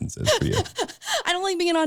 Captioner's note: chuckling